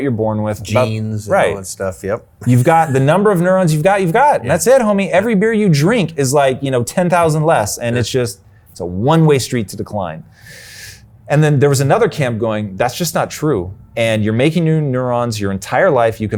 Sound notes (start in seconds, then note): 2.4 chuckles